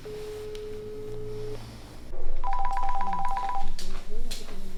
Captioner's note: line ringing